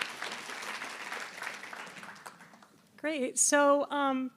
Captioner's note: applause